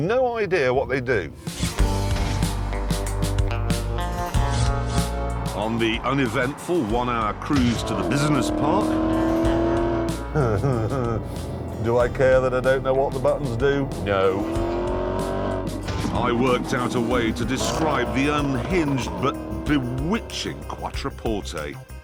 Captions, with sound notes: No idea what they do. On the uneventful one-hour cruise to the business park... (HE SNIGGERS) Do I care that I don't know what the buttons do? No. ..I worked out a way to describe the unhinged but bewitching Quattroporte.